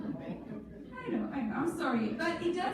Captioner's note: audience mumbling